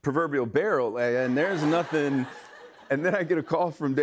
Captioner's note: laughter